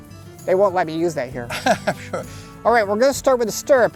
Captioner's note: laughs